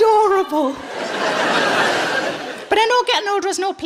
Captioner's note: laughing